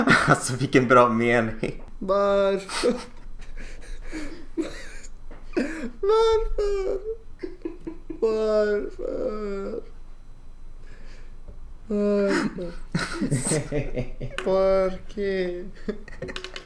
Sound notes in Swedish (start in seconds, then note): 5.5 kan inte hålla sig för skrattet; 12.2 skrattar i bakrunden